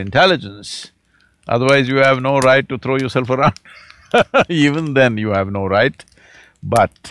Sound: laughs

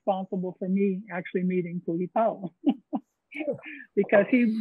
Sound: chuckles

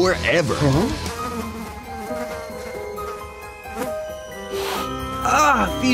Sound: flies buzzing

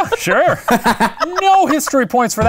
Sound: laughing

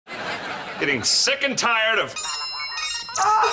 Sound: phone chiming

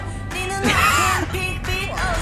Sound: laughs

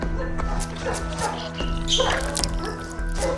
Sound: blood squirts

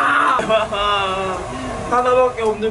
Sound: sobs

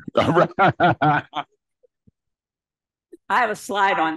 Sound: laughs

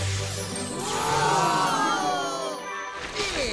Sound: gasping

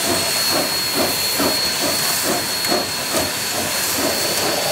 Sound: lite chugging

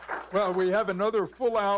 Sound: applause

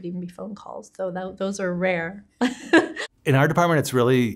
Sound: women laughing

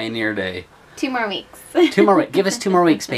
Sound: laughs

